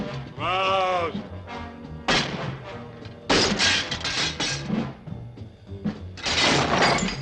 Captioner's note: bat thudding; objects clattering; bottle clatters